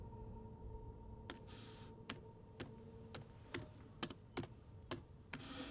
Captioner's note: laptop keyboard clicking